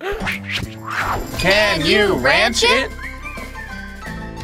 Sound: groans; voiceover

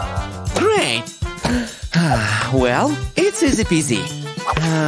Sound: taking a deep sigh

